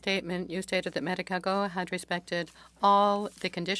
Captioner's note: speaking French